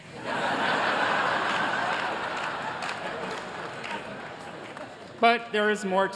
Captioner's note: laughter